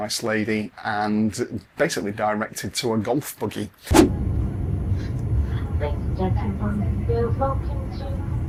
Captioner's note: cabin Announcement